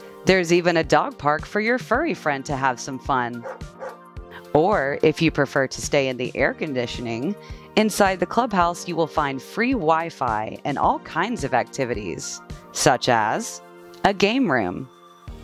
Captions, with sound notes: There's even a dog park for your furry friend to have some fun! (DOG BARKS) Or, if you prefer to stay in the air-conditioning, inside the clubhouse you will find free Wi-Fi and all kinds of activities, such as A game room,